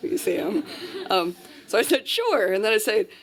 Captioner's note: laughter